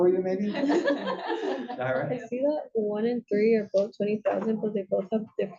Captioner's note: laugh